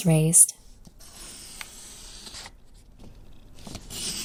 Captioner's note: pencil scratches